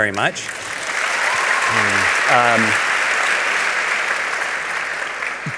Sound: applause

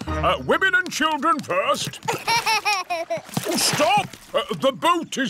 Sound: laughs

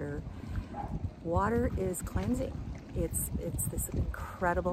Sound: water splashing

